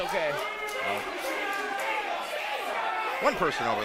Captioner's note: crowd cheers